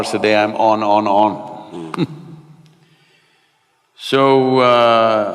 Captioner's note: laughs